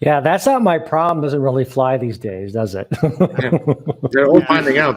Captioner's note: chuckling